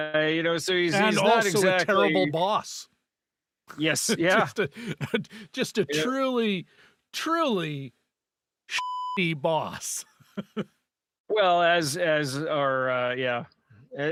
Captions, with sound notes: (laughing) Everybody. I just want to be left alone. Going to space. Yeah. It won't be like it is here. Well, I mean,